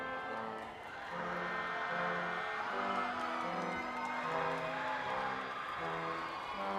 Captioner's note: crowd cheering